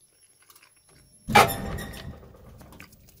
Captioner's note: bang!